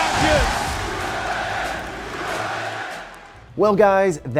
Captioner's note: crowd chanting